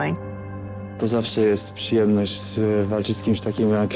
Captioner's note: in Polish